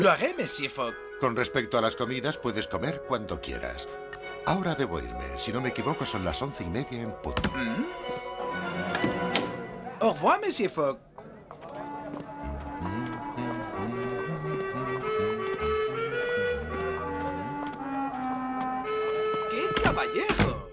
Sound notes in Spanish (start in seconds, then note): 13.2 tararea; 15.9 música tranquila